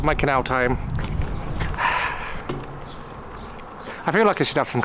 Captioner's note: sigh